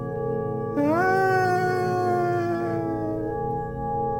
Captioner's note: laughs manically